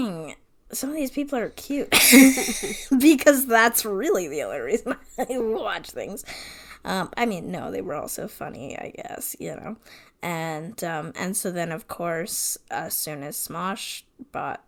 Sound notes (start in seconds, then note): 1.8 laughs